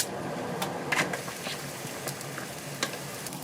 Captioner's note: boiling